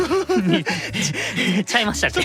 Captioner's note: pant